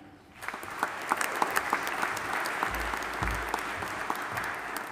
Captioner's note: audience applauding